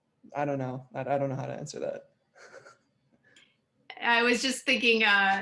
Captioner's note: laughs